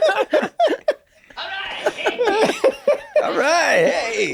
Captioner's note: laughter; cricket